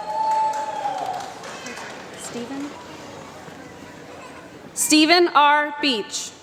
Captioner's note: applause